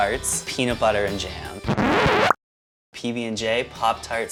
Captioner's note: record scratch sound